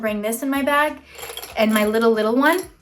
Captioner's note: containers clattering